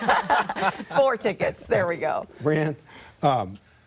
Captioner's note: laughter